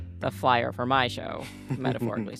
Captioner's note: laughter